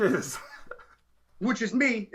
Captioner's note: laughing